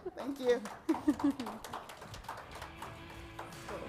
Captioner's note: audience claps